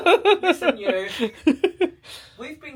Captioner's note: pair laughing; laughing